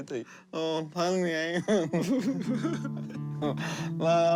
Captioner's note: both laugh